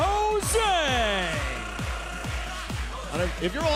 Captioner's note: cheers and applause